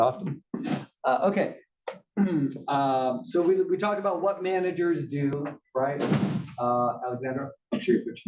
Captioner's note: cough